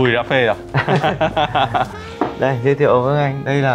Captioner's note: laughing